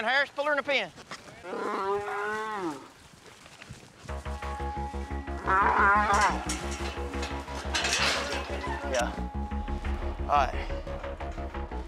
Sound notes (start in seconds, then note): 1.5 mooing; 5.9 clanging sound